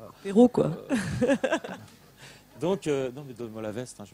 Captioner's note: laughs